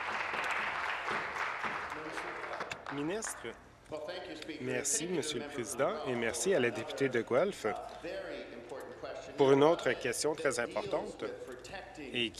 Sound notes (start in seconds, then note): 0.0 applause